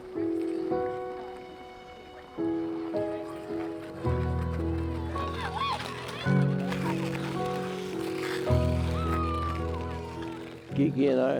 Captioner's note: skate blades carving ice